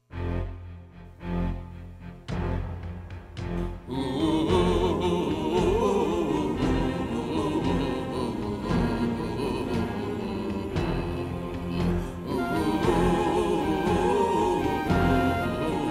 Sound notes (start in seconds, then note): 0.1 dramatic music playing; 3.7 hunters vocalizing